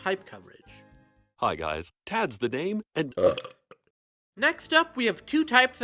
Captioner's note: burp